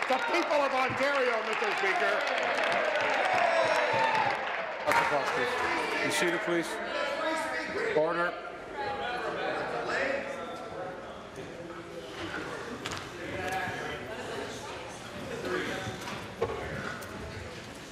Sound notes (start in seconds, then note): 5.7 applause